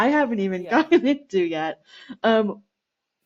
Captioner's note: laughter